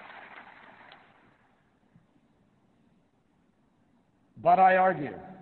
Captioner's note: applause